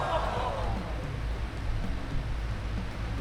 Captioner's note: shocked laughter; fan whirrs softly